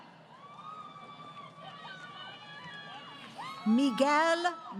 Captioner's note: crowd Cheering